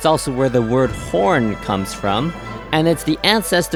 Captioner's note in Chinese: 号角